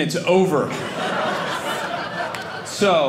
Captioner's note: audience laughing